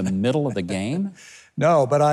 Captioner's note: chuckles